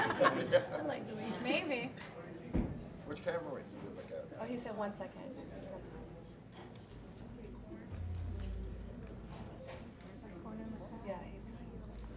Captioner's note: laughter